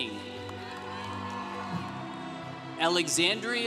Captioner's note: congregation cheering